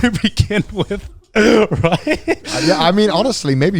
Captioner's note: laughs